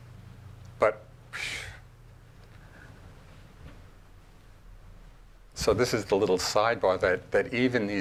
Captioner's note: sigh